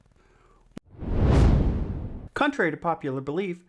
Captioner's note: frame whooshes